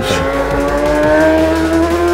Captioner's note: engine revving